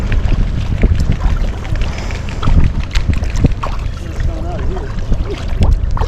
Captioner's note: sound of birds wings flapping on the water